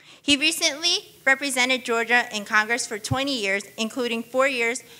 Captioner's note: none